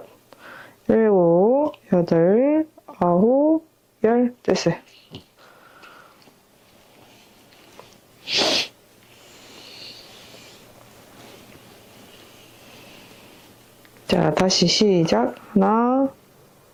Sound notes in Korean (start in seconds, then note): 8.2 콧방귀